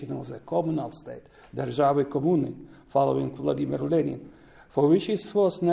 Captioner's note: non-english speech